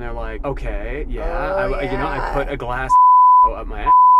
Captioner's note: beep